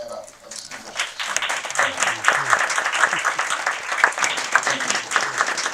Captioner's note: crowd applauding